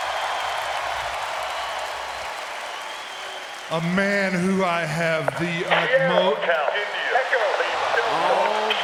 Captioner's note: applause